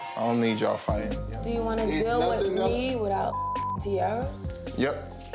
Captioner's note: beep